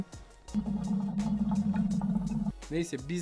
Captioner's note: hookah sound